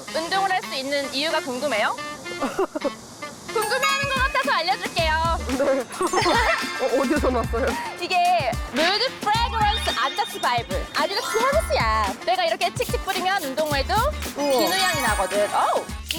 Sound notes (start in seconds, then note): 9.8 pleasant scent SFX; 13.6 sound of spraying perfume; 15.7 sound of spraying perfume